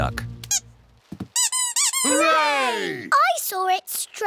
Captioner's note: duck squeaks